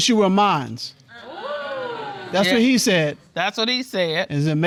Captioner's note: audience exclaims